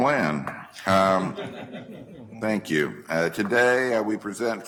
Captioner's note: group chuckling